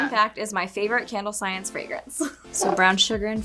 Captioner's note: chuckles